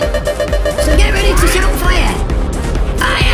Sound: blaster charging up

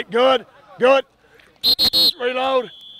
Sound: blows whistle

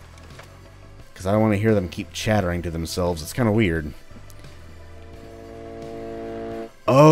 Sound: railgun charging up

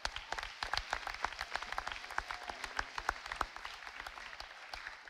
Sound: audience applauding

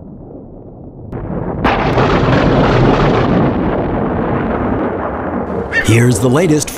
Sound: loud thunder; rumbles of thunder

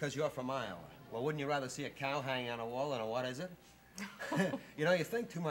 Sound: laughter

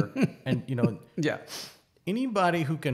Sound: laughs

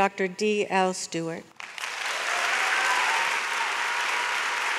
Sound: audience applauds

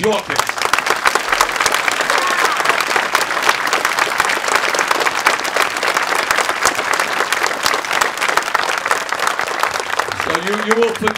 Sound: cheers

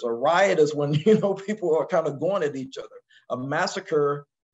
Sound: laugh

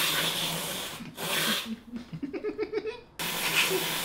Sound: Ethan and Hila giggling

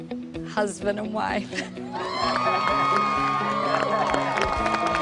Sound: cheering

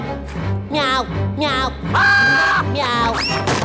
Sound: screams

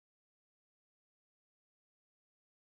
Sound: none

